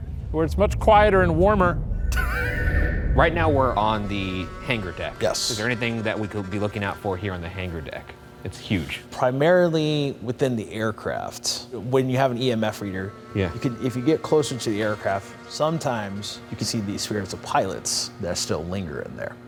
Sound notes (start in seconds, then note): 2.1 chuckles